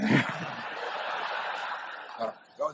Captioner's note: laughs; laughter